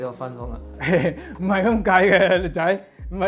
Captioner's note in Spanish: Risas